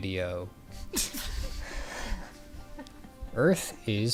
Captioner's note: laughter